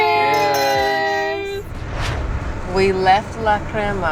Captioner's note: glasses clinking